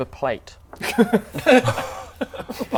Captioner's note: judgemental laughter